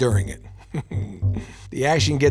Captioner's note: laughs knowingly